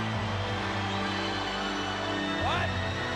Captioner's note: crowd cheering continues; somber music continues